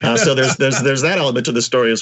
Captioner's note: laugh